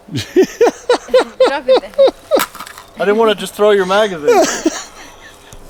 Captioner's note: awkward fumbling